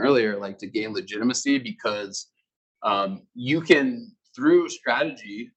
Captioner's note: male Voice